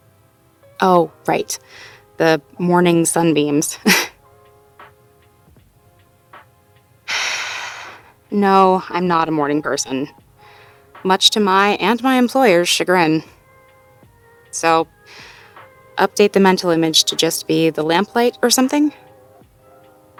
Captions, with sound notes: Oh, right. The "morning sunbeams." [*scoffs*] [*sighs*] No, I'm not a morning person, much to my and my employer's chagrin. So...update the mental image to just be the lamplight, or something?